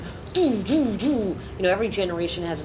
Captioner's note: imitates reverberating drum